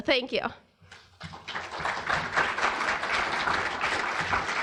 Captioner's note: audience applauding